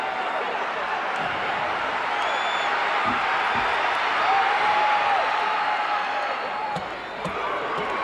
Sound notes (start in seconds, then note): 2.6 audience applauding and cheering